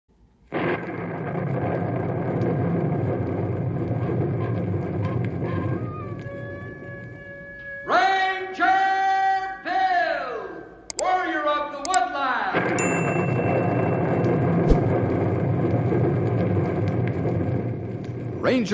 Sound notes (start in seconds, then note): none